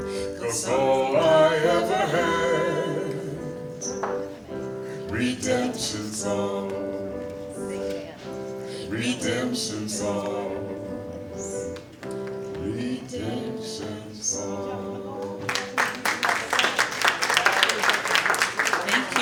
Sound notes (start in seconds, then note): 15.4 applause